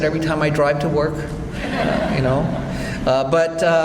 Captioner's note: audience laughs